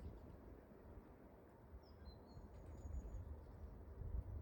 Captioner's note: bird song